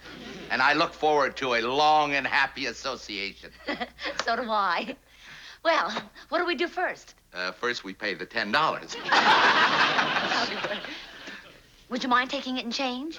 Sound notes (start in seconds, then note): 0.0 laughs; 3.6 laughs; 8.9 laughter